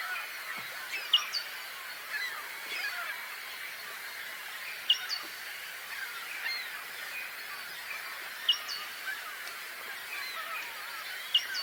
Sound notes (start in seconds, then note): 0.0 chirping/whistling birds; 2.4 seagulls sound